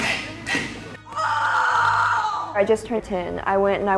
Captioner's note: screams